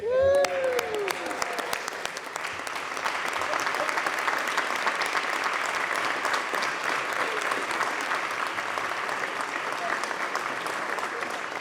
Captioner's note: applause